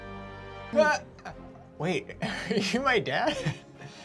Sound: laughing

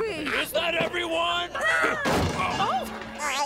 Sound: bang

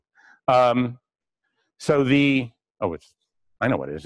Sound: pause

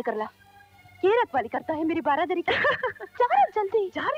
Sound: laughs

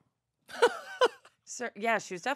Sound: laughing

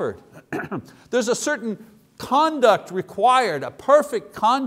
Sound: coughs

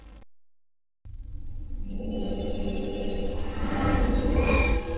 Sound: digitized dramatic sounds

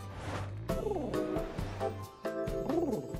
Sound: sad coo

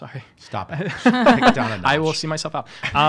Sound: laughing

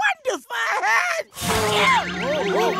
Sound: sneezing

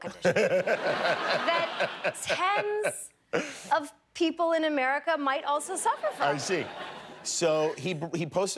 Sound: laughter

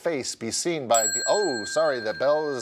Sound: bell ringing

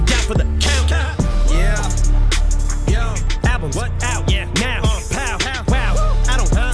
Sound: pow; whoo!

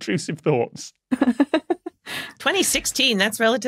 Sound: giggles

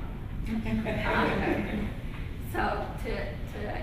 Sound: laughter

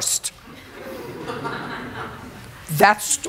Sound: laughter

